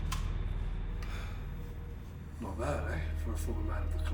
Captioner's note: gun firing; gun cocking